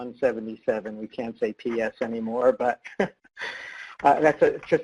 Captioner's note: laughs